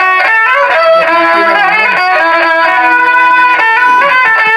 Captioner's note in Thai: ปรบมือ